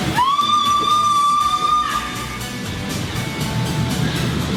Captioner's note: screaming